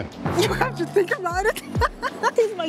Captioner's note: laughs